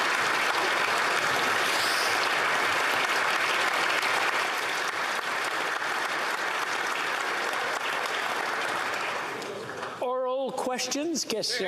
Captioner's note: applause